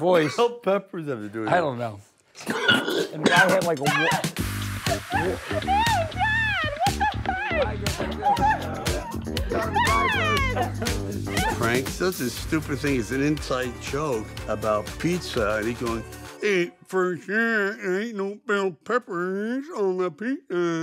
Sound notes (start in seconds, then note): 2.4 Sly choking